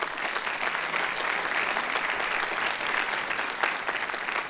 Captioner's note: applause